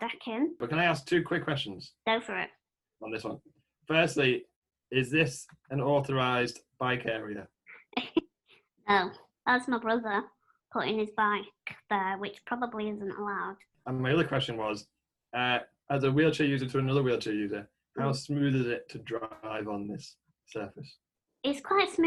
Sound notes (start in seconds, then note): 7.5 laughter